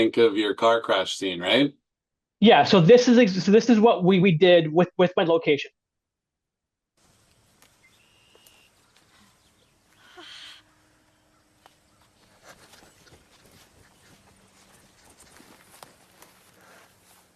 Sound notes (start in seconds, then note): 7.1 birds chirping; 7.1 footsteps thumping; 9.9 Actor 1 breathing heavily; 12.2 Actor 2 breathing heavily; 12.2 footsteps thumping